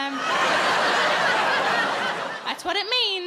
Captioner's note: audience laughs